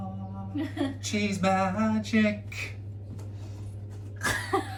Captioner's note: laughs